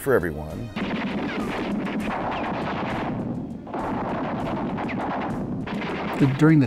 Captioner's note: battle sounds